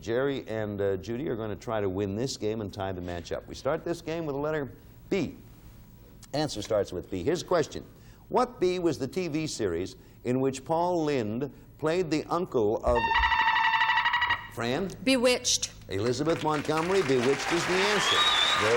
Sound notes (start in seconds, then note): 12.9 buzzer beeping